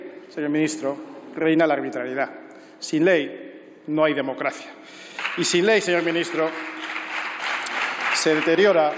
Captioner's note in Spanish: aplausos